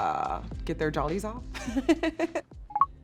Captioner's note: laughing